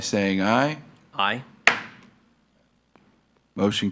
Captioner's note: gavel thuds